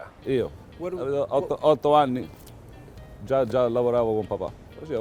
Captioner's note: speaking in Italian